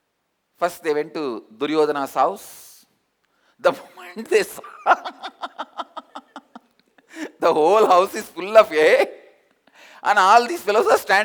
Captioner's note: hahahahahahaha